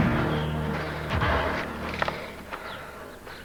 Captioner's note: panting and gasping